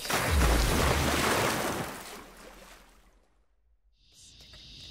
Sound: water splashes

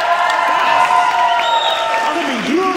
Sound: audience cheering

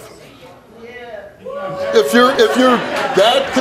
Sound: audience cheering

